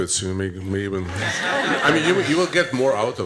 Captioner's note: laughter